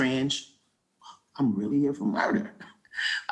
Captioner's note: chuckles